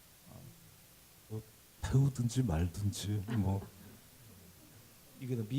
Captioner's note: speaking Korean